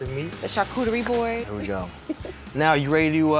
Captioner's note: laugh